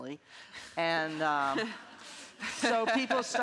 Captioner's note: all laughing